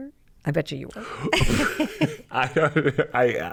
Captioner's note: both laugh